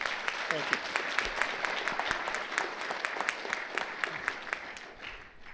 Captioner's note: audience laughing